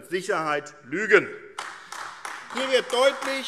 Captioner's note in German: Beifall AfD